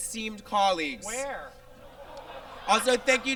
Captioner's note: audience laughs